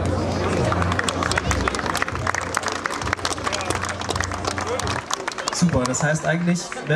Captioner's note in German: Applaus